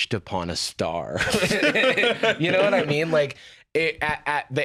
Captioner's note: both laugh